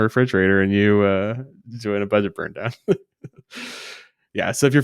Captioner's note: laughs